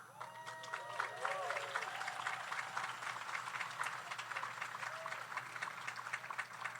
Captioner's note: audience cheers; audience applauds